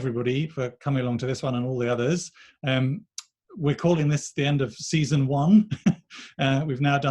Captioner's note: chuckles